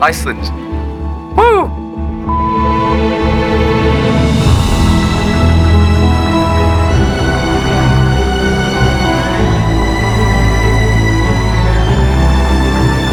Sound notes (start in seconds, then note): 2.2 phone beeping; 5.2 soaring orchestral music